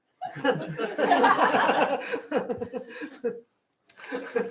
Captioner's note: laughter